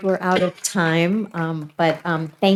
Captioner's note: coughs